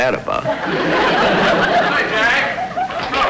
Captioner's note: audience Laughing